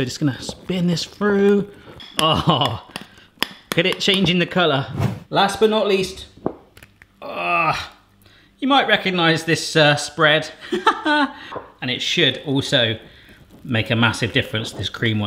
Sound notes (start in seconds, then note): 4.9 whoosh; 10.6 laughing